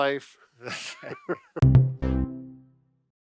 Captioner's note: chuckling